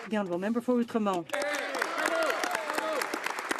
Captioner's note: some Applause